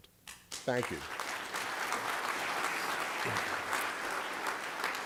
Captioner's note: applause